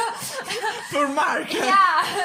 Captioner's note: laughs